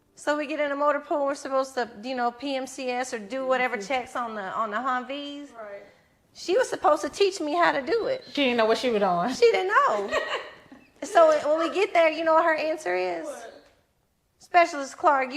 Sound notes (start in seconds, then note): 9.8 giggles